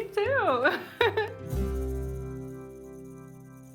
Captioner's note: chuckles